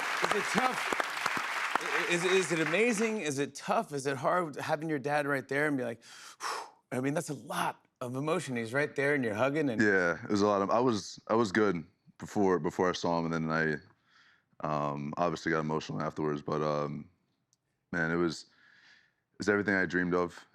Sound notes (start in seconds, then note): 6.0 breathes deeply